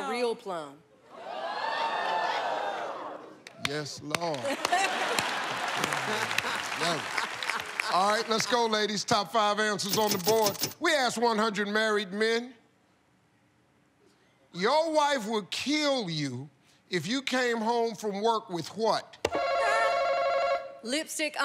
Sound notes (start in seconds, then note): 1.2 audience cheers; 4.2 cheers and applause; 18.9 ringing